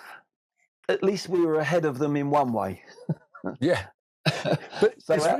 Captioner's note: laughs